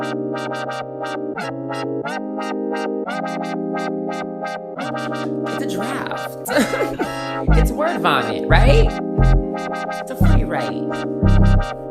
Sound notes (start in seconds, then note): 6.4 laughs